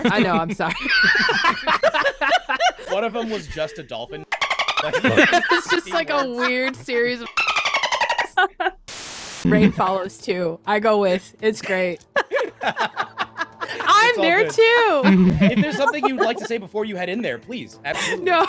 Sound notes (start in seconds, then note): 7.3 dolpin noises